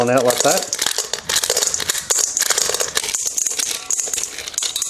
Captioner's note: corn kernels rattling